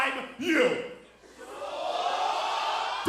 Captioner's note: crowd cheering